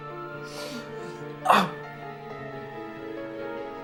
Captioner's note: groans